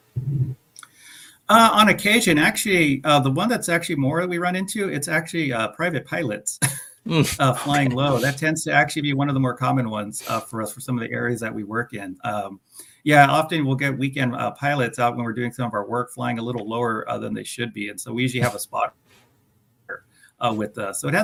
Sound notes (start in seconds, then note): 6.6 chuckles